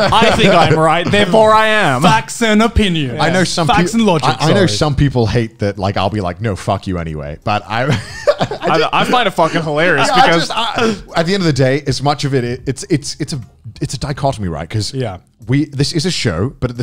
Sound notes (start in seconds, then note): 7.8 laughs